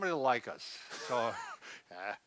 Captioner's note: laughs